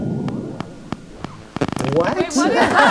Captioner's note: clicking appears